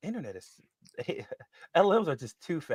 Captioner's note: chuckles